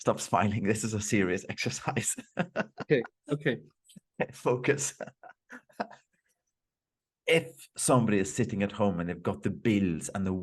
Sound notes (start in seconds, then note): 2.0 laughs